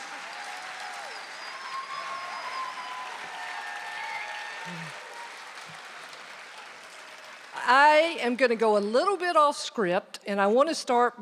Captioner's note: applause